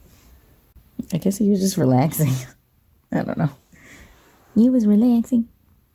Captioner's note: baby voice